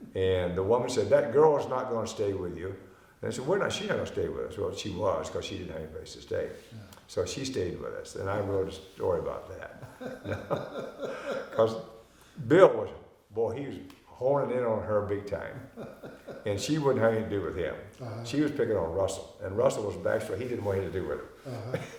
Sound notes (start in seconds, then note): 9.8 both laughing; 21.4 both laughing